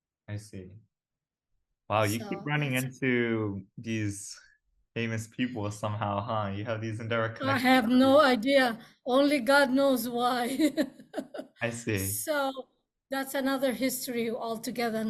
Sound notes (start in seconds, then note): 11.6 laughs